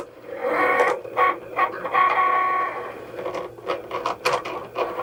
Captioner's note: machine whirring